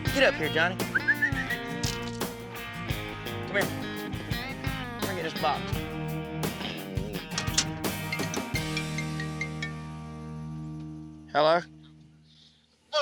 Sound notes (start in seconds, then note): 0.8 whistles; 7.4 cell phone rings